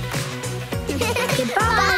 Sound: laughing

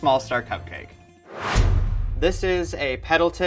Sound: whooshing

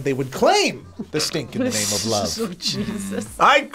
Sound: laughs

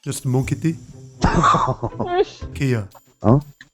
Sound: laughter

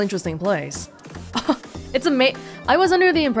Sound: chuckles

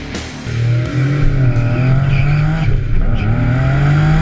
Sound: engine accelerates; tyres squeal

